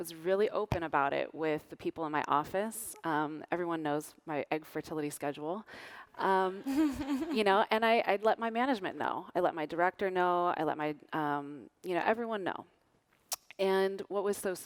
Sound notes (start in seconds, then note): 6.6 laughter